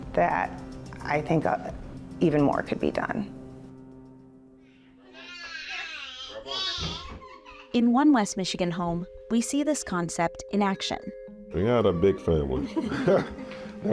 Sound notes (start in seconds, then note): 5.1 children playing; 12.6 both chuckling